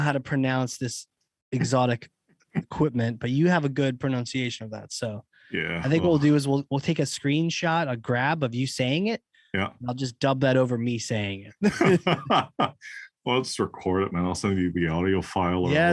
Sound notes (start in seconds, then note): 11.6 laugh